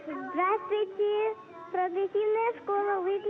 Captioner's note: Russian language